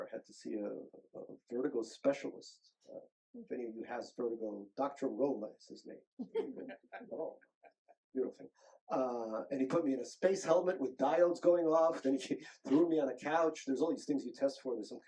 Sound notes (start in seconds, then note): 6.5 group laughing